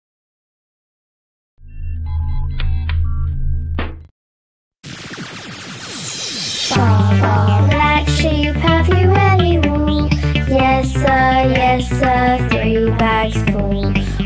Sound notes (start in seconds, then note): 2.0 rocket humming; 5.0 interstellar blasting off; 5.0 upbeat children's music